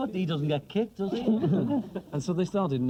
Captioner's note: everyone laughs